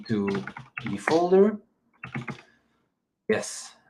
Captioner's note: keyboard clicks